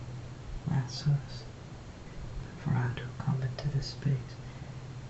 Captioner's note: foregin language